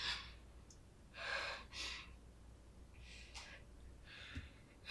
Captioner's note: Lorraine breathing heavily